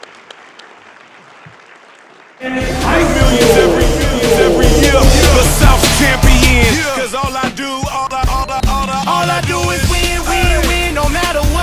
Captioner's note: applause